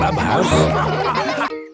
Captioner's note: all laughing